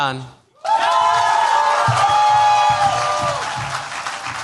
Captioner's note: cheers, applause